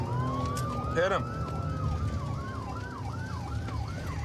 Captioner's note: sirens wailing